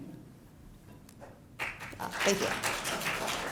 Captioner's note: applause